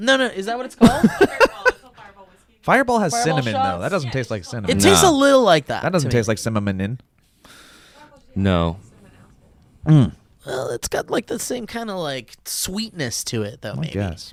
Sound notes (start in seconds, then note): 0.8 laughs; 8.1 faintly speaking